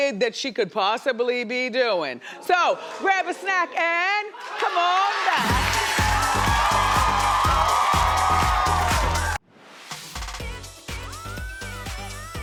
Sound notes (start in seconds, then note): 4.4 audience cheering; 8.3 funky music